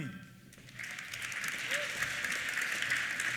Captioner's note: applause